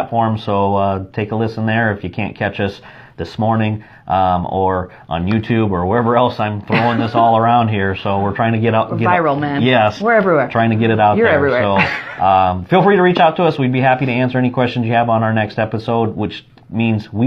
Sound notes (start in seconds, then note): 11.2 laughs